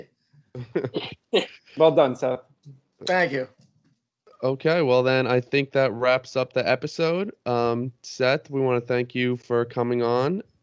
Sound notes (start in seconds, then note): 0.6 laughter